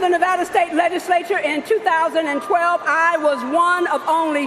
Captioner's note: cheering and applause